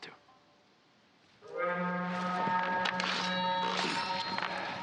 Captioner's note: alarm